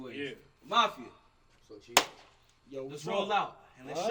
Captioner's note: claps